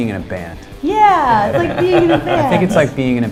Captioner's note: laughter